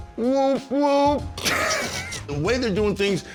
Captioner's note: both laugh